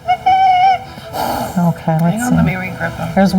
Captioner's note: Joey trilling; Joey snarling